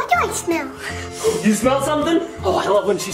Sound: gasps

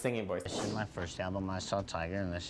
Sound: air whooshes

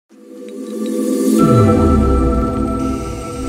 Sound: resonating sound

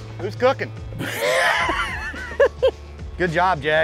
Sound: laughs

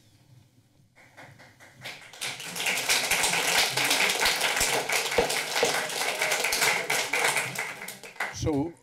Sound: applause

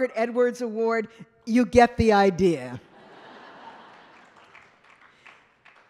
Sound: laughter

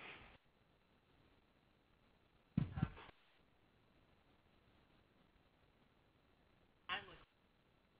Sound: break in audio

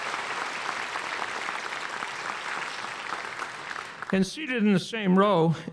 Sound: applause

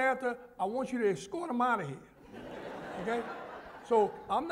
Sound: laughter

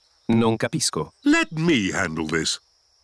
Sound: replies in italian

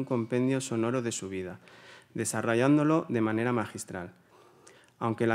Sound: continues in Spanish

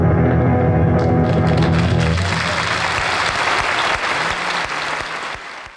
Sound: audience applauding

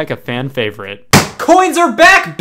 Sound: slams table

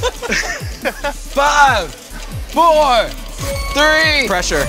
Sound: laugh

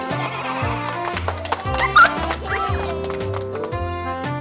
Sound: clapping

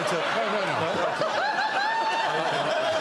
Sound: laughing

